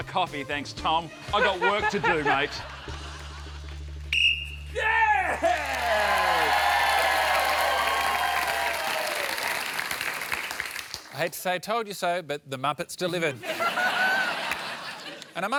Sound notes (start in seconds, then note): 4.1 blows whistle; 7.1 cheering and applause